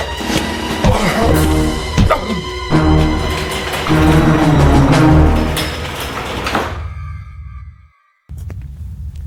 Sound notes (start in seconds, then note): 1.0 groans